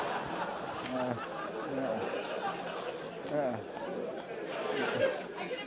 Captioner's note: laugh